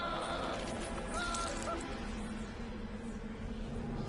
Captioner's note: painful screaming